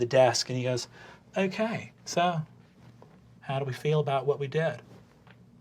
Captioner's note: detached, calm voice